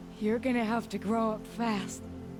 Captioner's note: none